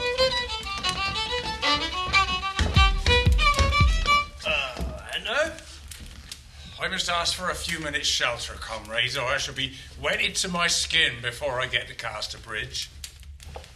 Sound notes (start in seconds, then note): 4.2 knock on the door